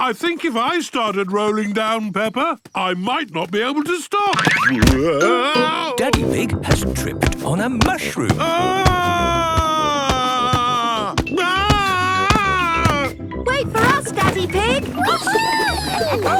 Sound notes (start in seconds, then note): 8.3 shouting